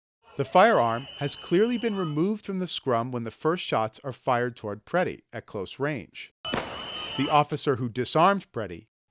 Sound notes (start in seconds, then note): 6.4 gunfire